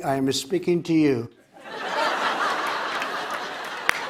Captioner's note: laughter